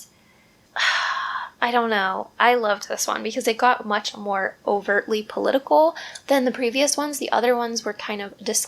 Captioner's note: sigh